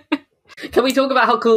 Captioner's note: laughs